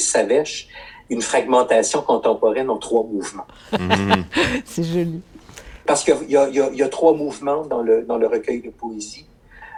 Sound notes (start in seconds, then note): 3.5 laughter